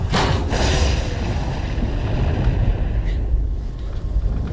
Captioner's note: thunder & lightning